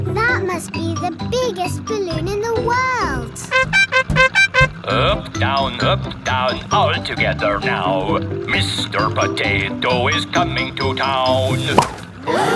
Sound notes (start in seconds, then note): 3.8 horn beeping